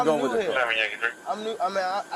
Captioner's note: radio chatter